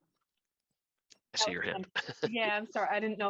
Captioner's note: laughter